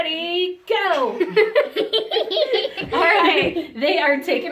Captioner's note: laughs